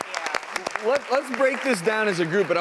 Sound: audience applauds

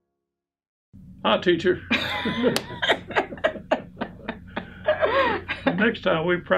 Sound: they both laugh

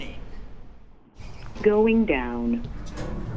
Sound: elevator Voice

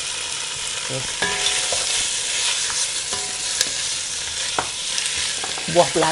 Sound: stirring & sizzling sound

